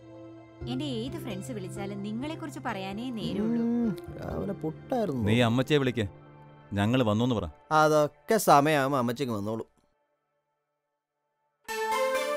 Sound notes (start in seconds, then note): 3.3 in low voice